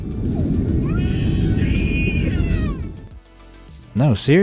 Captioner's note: wind roaring; baby screaming